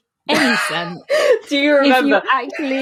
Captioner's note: laughing